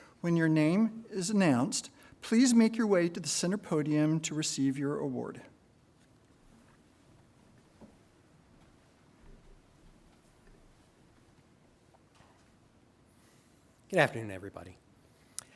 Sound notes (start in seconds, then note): none